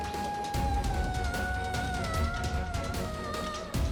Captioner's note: emotive vocalisation